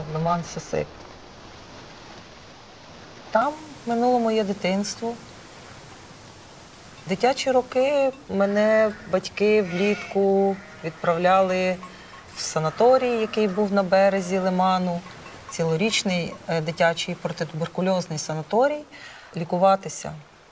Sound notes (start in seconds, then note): 3.2 wind in reeds; 12.1 sheep bleating